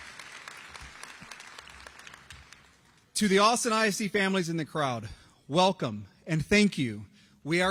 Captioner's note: applause